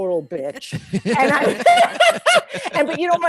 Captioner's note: group laughing